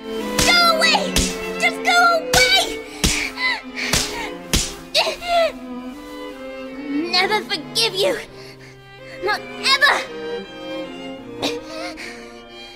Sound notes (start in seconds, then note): 3.0 crying; 3.7 slapping continues